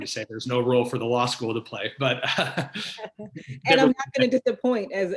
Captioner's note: laughs